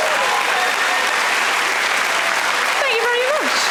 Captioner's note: audience cheering